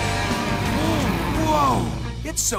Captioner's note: gasps